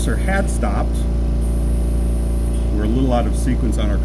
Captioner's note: compressor noise